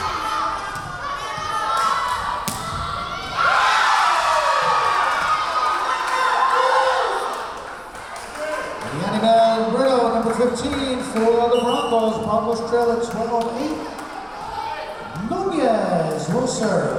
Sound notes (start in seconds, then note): 0.2 yelling; 4.5 cheering; 4.5 yelling